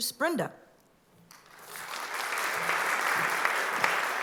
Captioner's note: applause